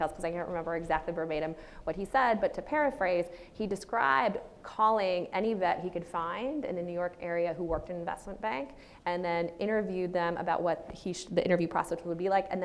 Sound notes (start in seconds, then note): none